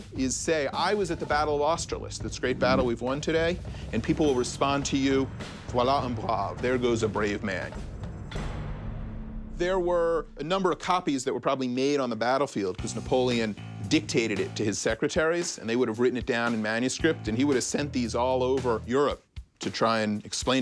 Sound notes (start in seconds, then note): 5.4 speaking french